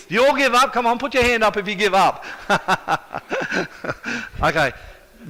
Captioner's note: laughing